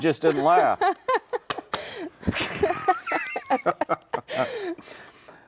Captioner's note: laughing; both laughing